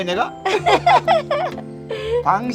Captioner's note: both laughing